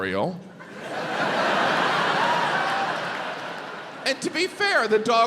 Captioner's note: audience laughs